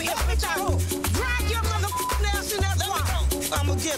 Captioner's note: beep